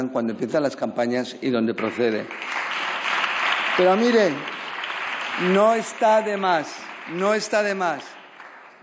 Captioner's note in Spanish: Aplausos